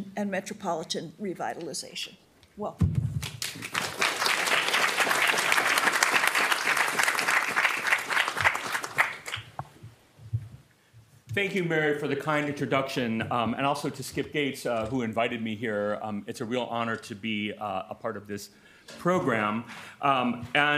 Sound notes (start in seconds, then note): 3.2 audience clapping